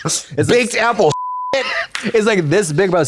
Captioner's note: beep